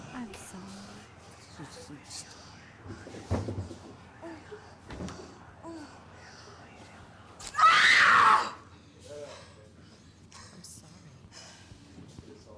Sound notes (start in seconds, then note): 7.5 Abby screams